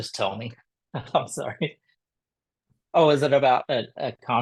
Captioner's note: laughter